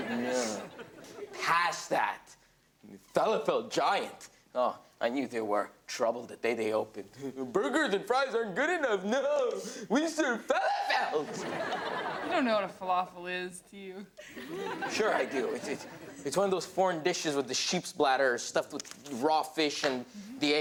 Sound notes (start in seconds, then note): 7.5 in a mocking tone; 10.6 shrieks; 10.7 audience laughs